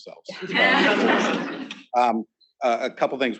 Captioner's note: students laughing